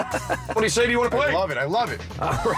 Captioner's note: laughs